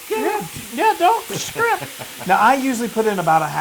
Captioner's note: laugh